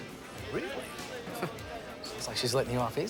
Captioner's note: chuckles